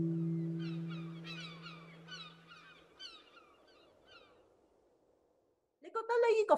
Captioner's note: Birds chirping